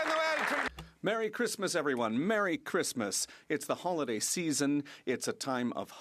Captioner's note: some Applause